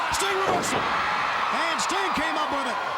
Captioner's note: crowd cheering